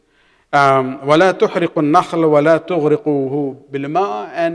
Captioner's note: arabic